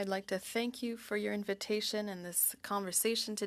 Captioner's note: speaking French